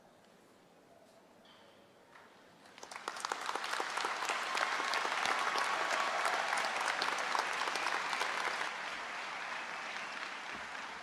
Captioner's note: applause